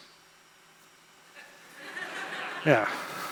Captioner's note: laughter